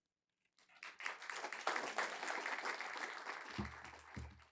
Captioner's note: applause